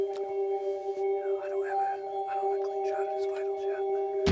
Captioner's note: whispering